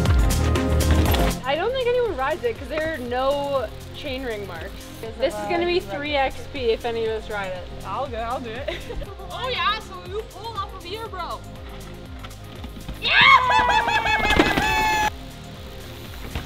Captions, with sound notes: - I don't think anyone rides it. Cause there are no chain ring marks. This is going to be three XP. If any of us ride it. - I'll go, I'll do it. (shouting)